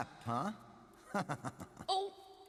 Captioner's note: laughs